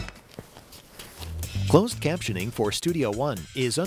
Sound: voiceover

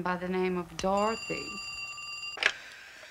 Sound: phone ringing

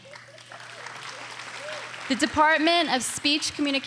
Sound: audience applauding

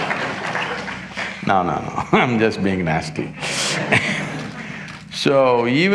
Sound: laughs

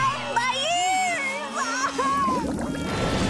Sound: screaming

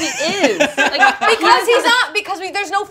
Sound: laughs

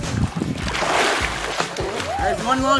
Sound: water splashing

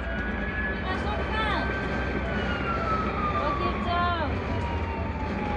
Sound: speaks foreign language

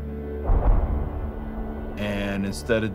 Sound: bullet bangs

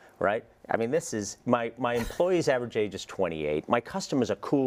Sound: laugh

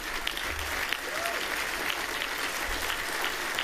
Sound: applause

